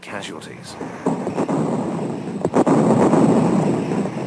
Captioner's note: bombs exploding